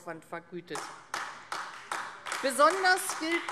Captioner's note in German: Beifall AfD